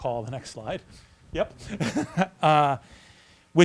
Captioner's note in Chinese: 笑声